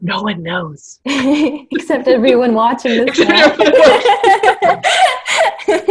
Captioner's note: laughter